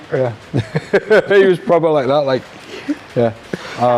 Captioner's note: laughs